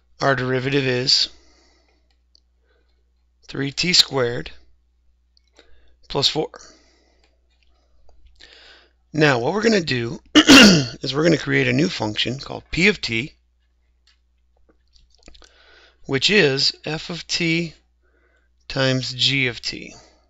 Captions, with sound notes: our derivative is three t squared plus four. Now, what we're gonna do (coughs) is we're gonna create a new function called p of t which is f of t times g of t.